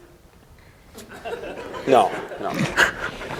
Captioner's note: laughter